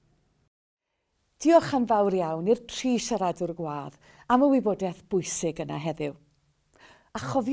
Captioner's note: Welsh